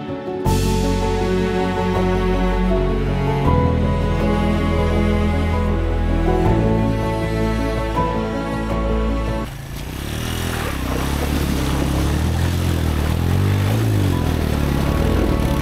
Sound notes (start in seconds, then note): 9.4 bike sound